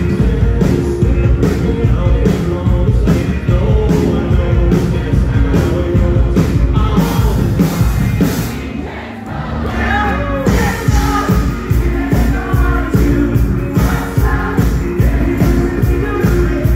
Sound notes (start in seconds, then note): 8.3 crowd